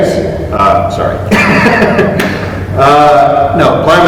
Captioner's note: chuckle